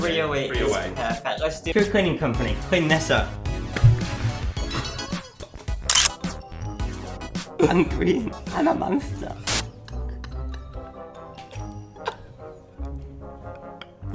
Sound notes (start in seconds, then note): 3.6 pie splat; 5.9 gun click; 9.6 laughter